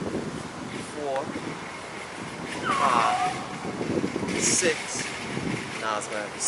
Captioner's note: dog howling